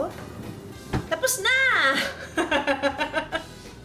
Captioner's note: laughs